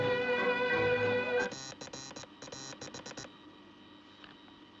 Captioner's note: Zumbido, clique